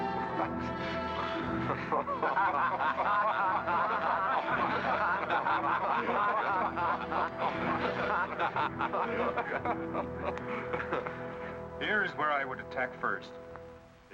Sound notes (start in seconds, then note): 0.0 ominous music; 0.9 men laughing